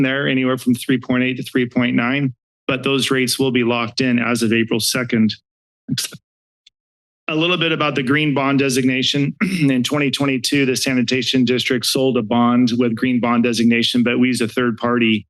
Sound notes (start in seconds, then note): 9.3 clears throat